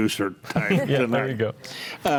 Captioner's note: group laughs